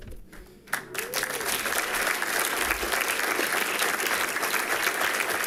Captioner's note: people clapping